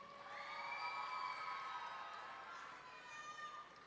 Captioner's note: audience cheering